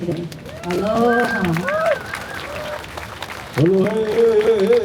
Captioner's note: applause